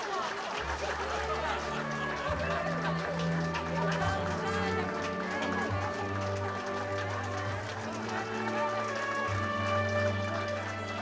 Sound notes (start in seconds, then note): 0.2 laughing; 1.5 applause continues